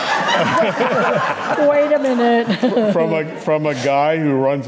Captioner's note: audience laughing